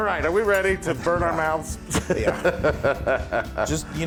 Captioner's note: laugh